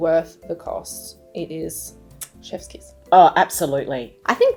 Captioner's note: lips smacking